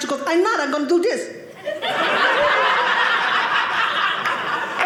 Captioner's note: audience laughing